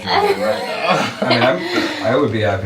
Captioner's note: group laughs